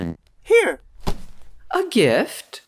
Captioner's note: soft thud as the gift hits the ground